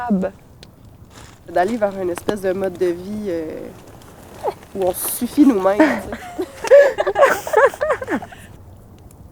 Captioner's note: laughter